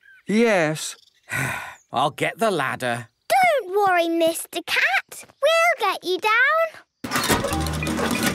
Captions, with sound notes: - Yes. (sigh) - I'll get the ladder. - Don't worry, Mr. Cat! We'll get you down!